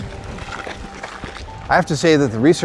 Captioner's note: feet stomping